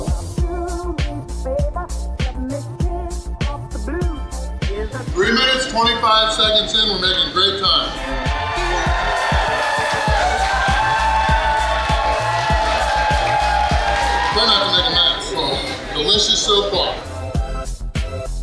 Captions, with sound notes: Three minutes, 25 seconds in. We're making great time. (crowd cheers) I'm trying not to make a mess. Delicious so far.